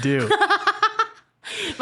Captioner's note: laughing